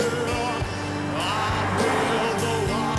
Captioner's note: car whooshes